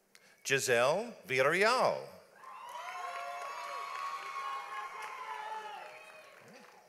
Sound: audience applauds

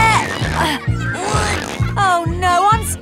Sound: grunting

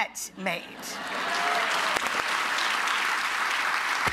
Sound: clapping

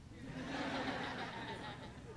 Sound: laughter

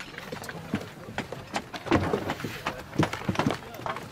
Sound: rumbling, quiet conversations

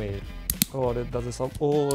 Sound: click

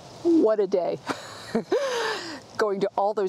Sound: laughs

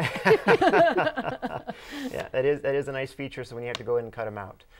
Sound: laughing

